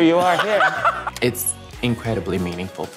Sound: Laverne laughs

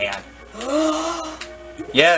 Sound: gasps

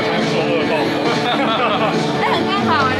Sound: ha ha

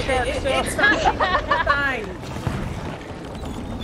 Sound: laugh

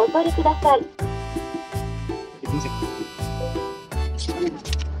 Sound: machine voice

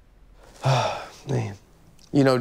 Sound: sighing

